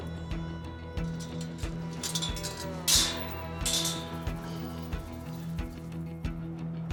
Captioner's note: suspense music; gate clanking; suspense music